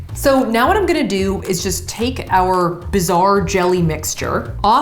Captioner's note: none